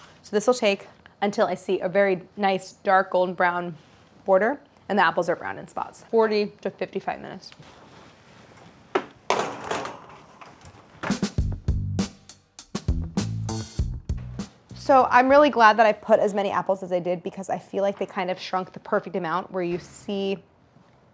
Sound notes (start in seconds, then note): 9.2 baking tray clanks; 11.0 upbeat instrumental music